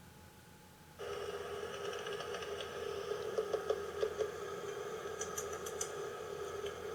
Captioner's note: clicking noises